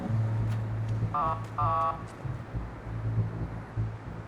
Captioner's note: honking